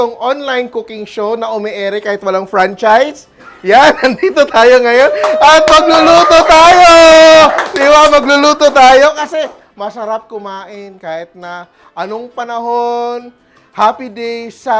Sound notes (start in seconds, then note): 3.4 giggles; 4.9 cheers; 5.0 applause